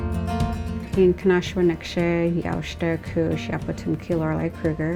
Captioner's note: speaking in foreign language